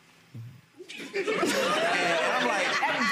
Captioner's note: gallery laughs